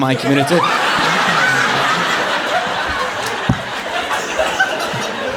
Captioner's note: audience applauding